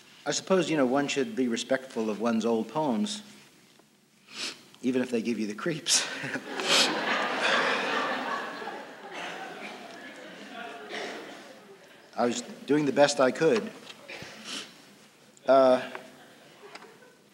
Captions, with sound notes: I suppose, you know, one should be respectful of one's old poems, even if they give you the creeps. [Laughter] I was doing the best I could.